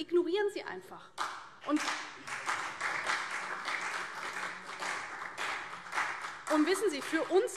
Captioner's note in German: Beifall CDU und BÜNDNIS 90/DIE GRÜNEN